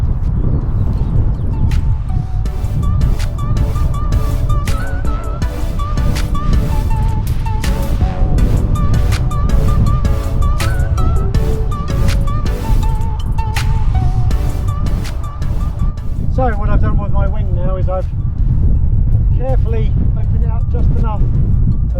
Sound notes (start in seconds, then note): 1.6 upbeat music; 3.4 wind whooshing